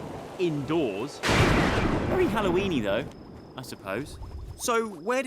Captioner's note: thunder crashes